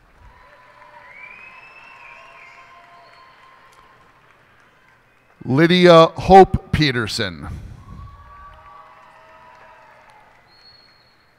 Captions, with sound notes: [cheers and applause] Lydia Hope Peterson. [cheers and applause]